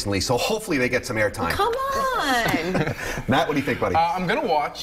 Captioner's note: laughter